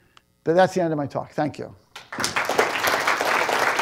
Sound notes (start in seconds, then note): 1.9 applause